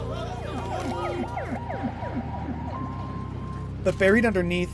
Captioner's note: ambulance siren